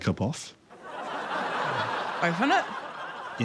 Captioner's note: audience laughs